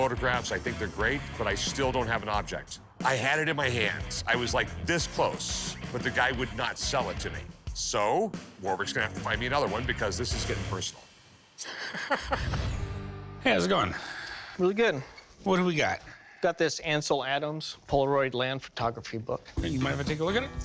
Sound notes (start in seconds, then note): 11.6 laughing